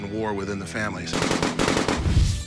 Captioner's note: gunfire